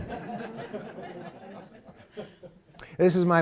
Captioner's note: laughter